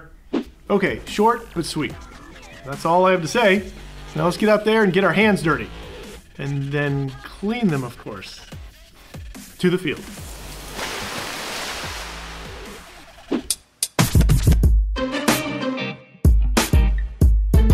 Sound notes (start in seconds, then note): 9.9 water splashing; 13.8 upbeat music